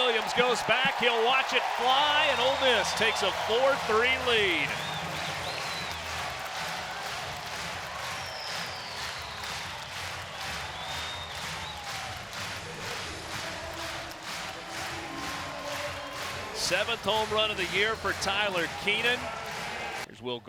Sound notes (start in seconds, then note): 5.6 crowd cheering and clapping